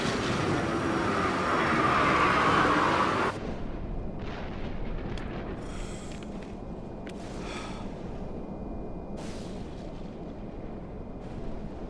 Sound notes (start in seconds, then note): 7.4 sigh